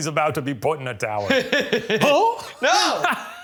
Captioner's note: laughs